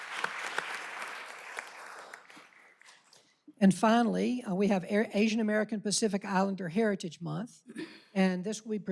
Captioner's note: applause